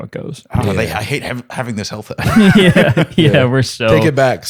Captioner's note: laughter